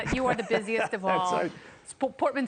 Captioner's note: laughter